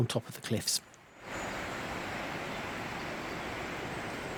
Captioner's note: sound of rushing water